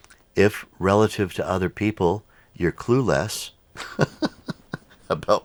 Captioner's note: laughs